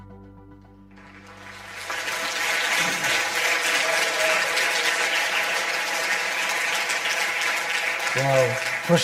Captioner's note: audience applause